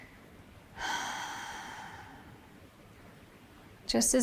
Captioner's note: exhales